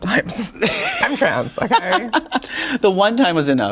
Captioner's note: Sasha laughing